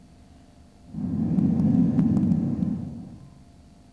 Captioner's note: shri mataji blows into the microphone